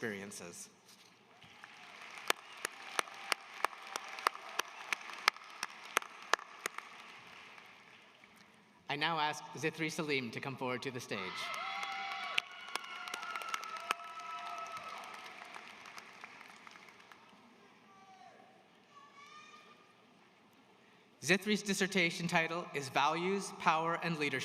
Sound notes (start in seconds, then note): 9.6 applause